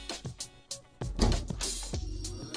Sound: door opens

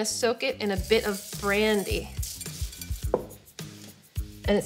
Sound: citron rattles

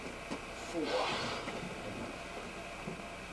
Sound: sigh

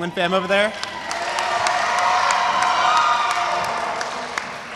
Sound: audience cheers

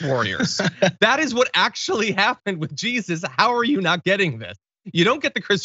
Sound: laugh

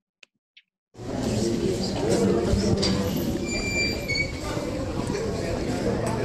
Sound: crowd conversing among each other

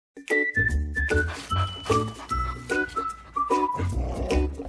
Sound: cheerful music; dog sniffing; dog growls

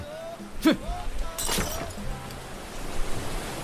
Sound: glass sounds

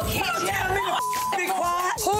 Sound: beep

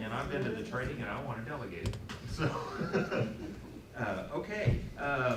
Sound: laughs

